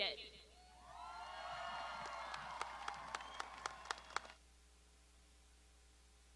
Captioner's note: graduands shouting and applauding